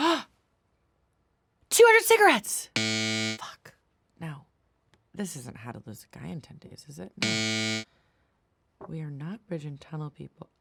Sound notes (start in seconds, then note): 0.0 Kate gasps; 2.7 buzzer buzzes; 7.2 buzzer buzzes